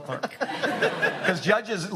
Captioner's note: audience laughs